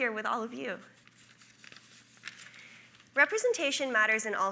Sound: paper rustling

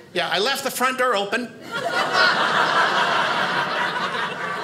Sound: audience laughing

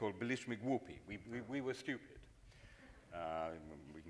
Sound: speaks in foreign language

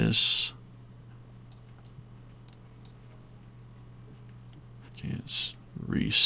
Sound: silence

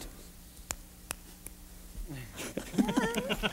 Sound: snapping fingers; laughter

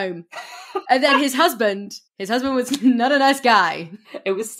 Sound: laughs

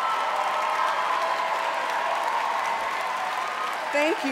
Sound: cheering and applause

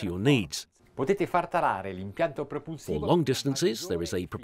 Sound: speaking in Italian

